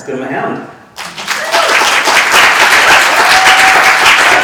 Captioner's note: audience clapping